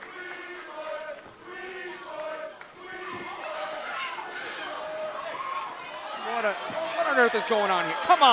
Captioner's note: fans chanting